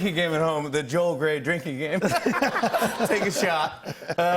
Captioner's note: laughter